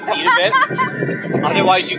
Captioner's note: laughs